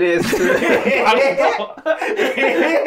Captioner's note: laughing